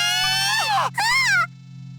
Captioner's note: panicked cry